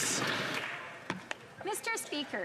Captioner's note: some Applause